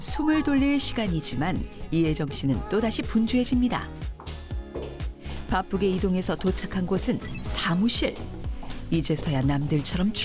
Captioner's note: voiceover